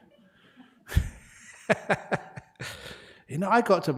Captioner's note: laughter